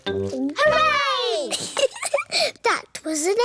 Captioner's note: giggles